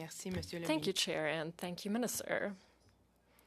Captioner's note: speaking in French